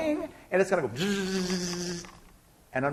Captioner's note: buzzing sound